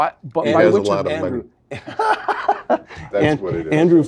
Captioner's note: laugh